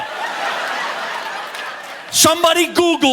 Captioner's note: audience laughing